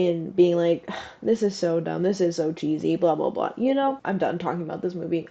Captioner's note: sigh